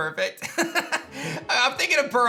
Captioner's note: laughs